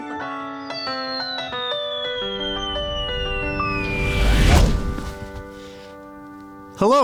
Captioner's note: avatar whistling; chair crashing